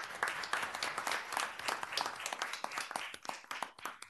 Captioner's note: applause